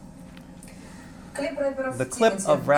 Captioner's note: speaking russian